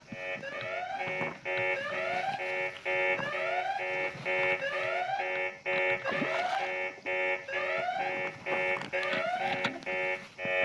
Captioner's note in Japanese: 警報音